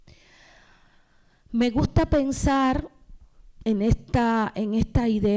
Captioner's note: speaking spanish